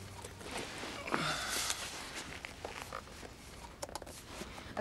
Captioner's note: Drew sighs